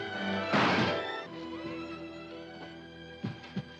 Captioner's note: bang; wood splintering